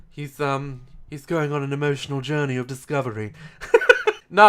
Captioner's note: laugh